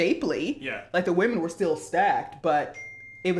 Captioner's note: phone Rings